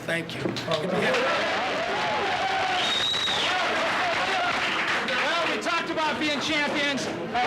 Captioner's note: players cheering and whistling